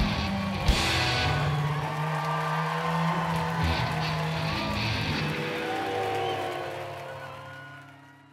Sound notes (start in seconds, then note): 0.0 cheers and applause